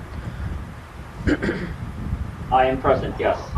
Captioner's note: clears throat